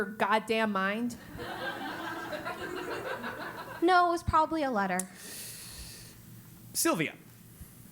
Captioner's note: laugh